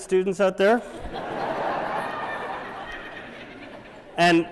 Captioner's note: laughter